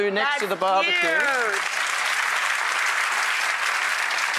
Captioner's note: applause